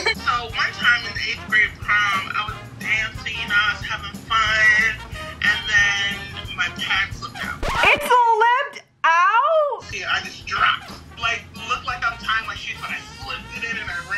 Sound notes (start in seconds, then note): 7.4 record scratches